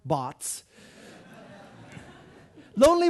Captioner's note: audience laughing